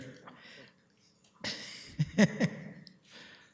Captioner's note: deputy Mayor laughs